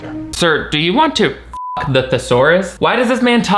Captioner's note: beep